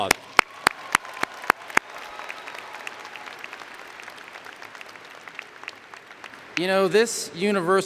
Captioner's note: applause